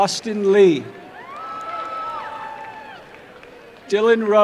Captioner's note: applause and cheering